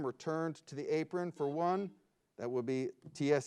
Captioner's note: buzzer beeps